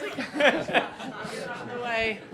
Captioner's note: laughter